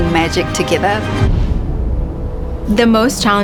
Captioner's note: air whooshing